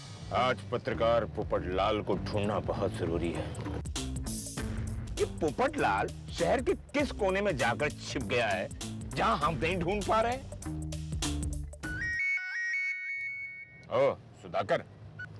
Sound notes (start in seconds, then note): 11.9 phone ringing